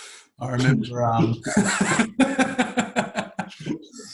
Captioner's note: laughter